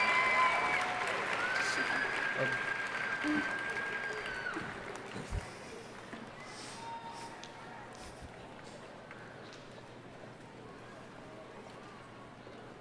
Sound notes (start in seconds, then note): 0.0 audience cheering and applauding